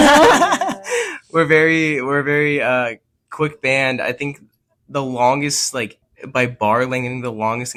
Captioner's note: laughs